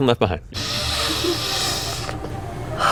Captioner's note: takes a HUGE sniff of her armpit